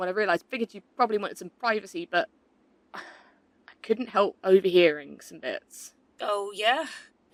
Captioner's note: sighs